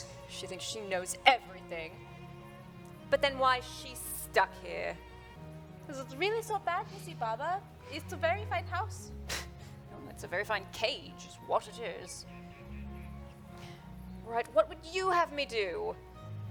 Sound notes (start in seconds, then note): 9.2 scoff